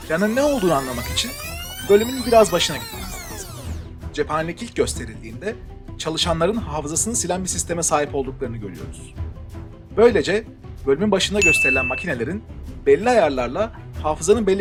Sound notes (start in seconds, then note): 0.0 rewind noise; 11.4 ding